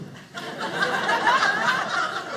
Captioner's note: audience laughing